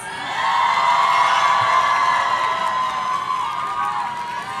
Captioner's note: audience cheering